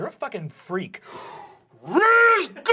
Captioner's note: bellowing